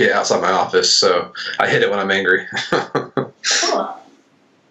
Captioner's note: laughs